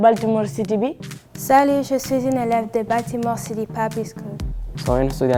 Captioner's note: foreign language